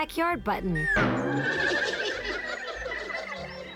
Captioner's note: snickering